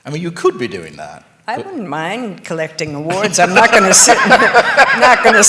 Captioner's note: laughter